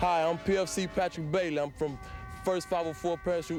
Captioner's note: crowd cheering